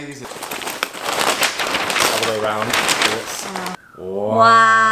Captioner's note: tearing paper